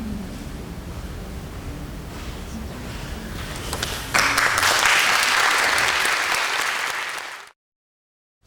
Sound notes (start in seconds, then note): 4.1 audience applauding